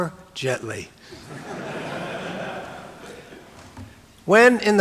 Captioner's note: audience laughing